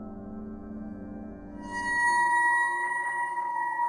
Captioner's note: ringing